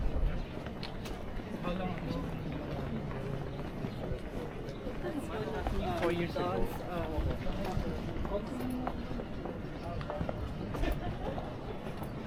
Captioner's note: people chattering